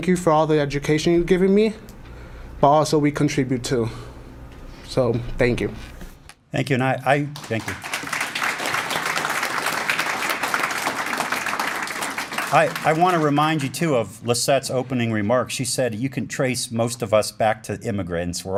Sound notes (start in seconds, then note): 7.3 applause